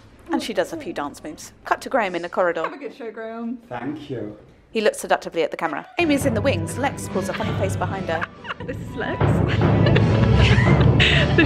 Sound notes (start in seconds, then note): 6.9 laugh; 10.5 laughter